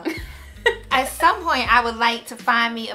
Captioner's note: giggles